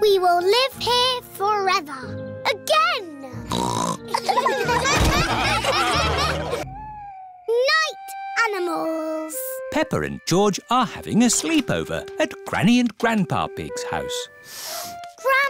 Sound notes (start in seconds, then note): 3.5 snorts; 4.1 laughter